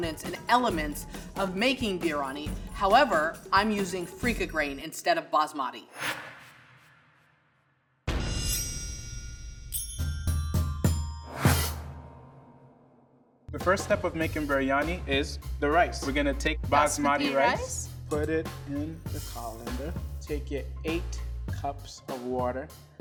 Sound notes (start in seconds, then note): 8.5 bells chiming